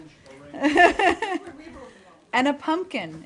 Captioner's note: laughter